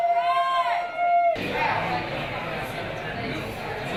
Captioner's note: people Cheering